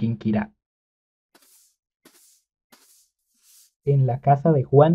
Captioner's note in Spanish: sonido escoba barriendo